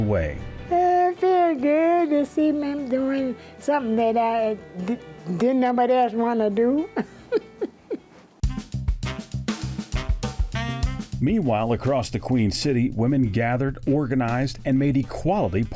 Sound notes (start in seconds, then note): 6.7 chuckles; 8.4 bright music